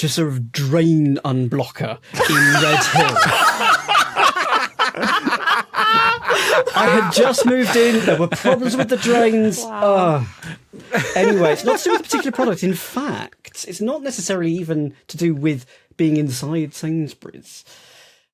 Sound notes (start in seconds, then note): 2.1 others laugh uproariously